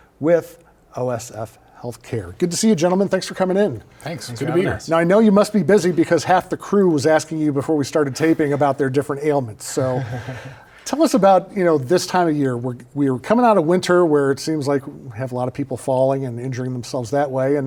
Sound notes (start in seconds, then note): 9.7 chuckle